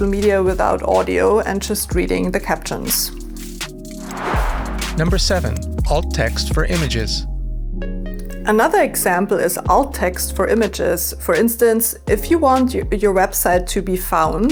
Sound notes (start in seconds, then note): 3.8 whoosh; 5.5 chill electronica